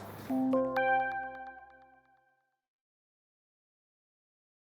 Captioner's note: electronic chiming